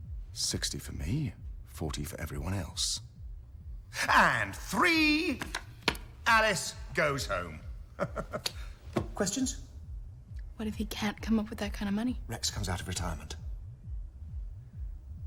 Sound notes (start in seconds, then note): 6.3 laughs